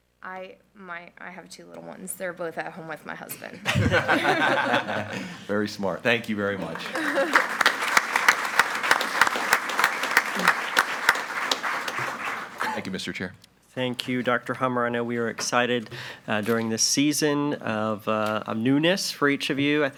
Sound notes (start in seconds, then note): 3.6 group laughing; 6.6 group applauding